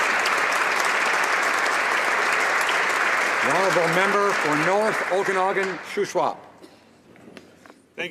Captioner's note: applause